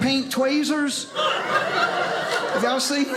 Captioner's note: audience laughing